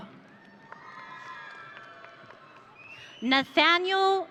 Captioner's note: audience cheering